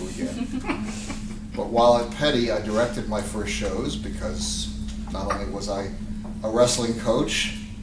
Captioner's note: laughter